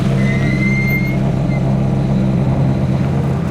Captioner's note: brakes squeak